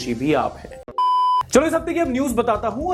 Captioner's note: beep